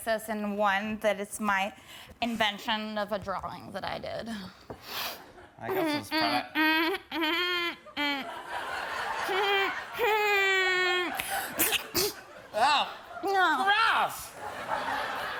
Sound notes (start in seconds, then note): 6.9 humming; 11.5 sneezes